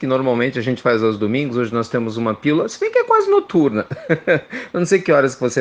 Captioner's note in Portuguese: risos